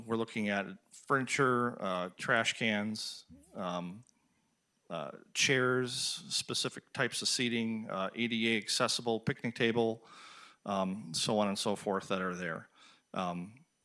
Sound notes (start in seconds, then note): none